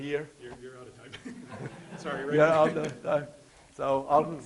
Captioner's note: men chatting; audience laughing